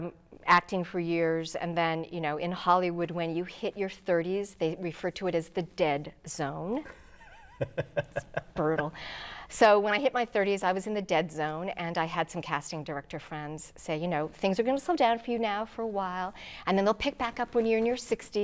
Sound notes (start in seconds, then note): 7.2 laughing